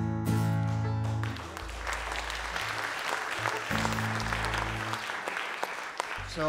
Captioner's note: audience Applause